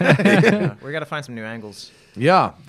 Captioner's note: laughter